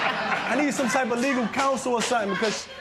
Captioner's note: laughter